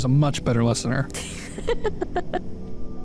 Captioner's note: female laughs